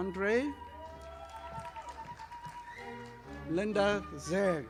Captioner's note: audience applauding